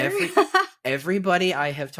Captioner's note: laughs